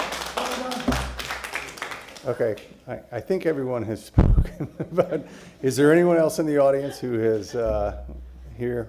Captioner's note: applause